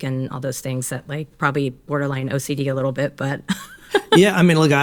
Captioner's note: laughs